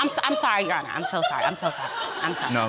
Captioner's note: audience laughing